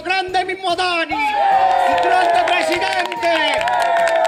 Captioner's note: applause and shouts